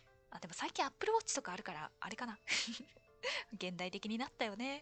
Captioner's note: laughs